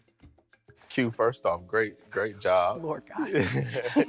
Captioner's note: upbeat music; laughs